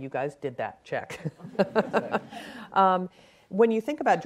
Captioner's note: laughing